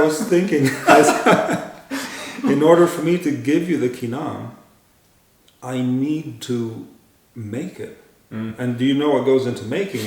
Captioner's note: laughter